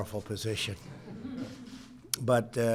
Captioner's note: laughter